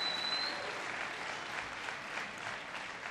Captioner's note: applause